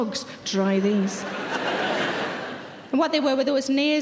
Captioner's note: audience laughing